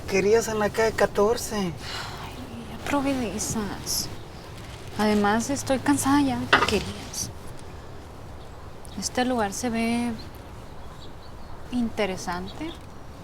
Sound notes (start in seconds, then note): 1.8 sighs